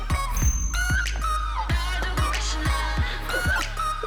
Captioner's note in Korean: 오열